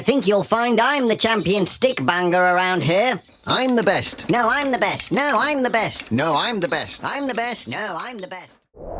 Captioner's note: shouting fades out